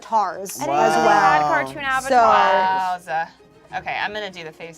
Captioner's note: overlapping chattering